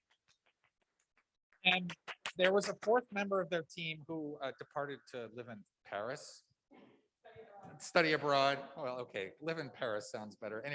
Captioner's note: applause